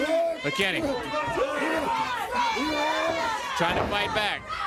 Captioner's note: crowd chatter